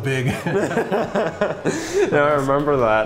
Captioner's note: both laughing